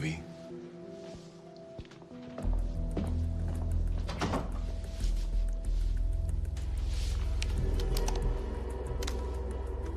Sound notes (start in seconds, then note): 4.0 door closes